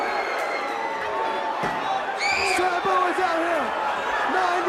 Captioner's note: crowd chatter